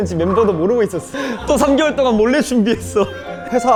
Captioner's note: hahahaha